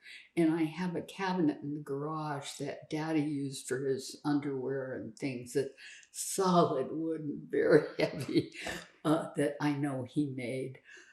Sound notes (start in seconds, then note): 7.8 laughing